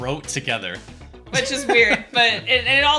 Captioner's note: laughs